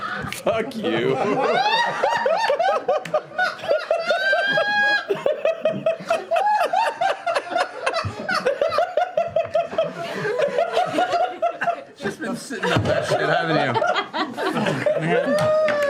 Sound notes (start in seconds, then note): 0.0 laughter; 1.2 hysterical laughter